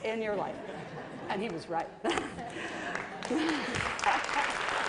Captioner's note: laughter; applause